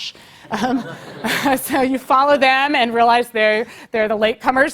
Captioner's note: laugh